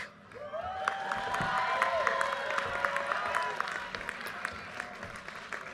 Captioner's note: audience cheers and applause